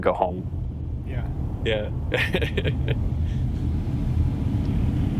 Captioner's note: laughs